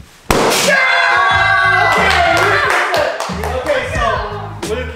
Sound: balloon popping; all cheering

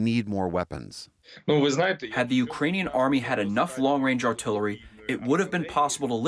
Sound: through translator

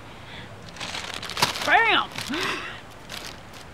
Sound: laughs

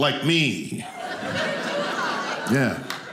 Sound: audience laughing

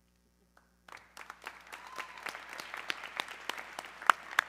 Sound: audience clapping

